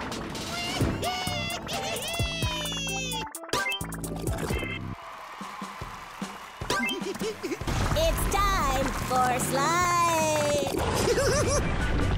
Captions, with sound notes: [shrieking] [giggling] It's time for slime! [giggling]